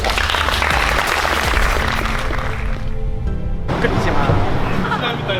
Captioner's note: students clapping